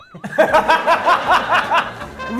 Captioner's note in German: Lachen